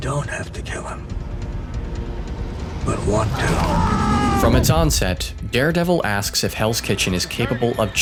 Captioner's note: screaming and groaning